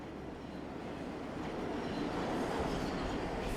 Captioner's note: tren acercando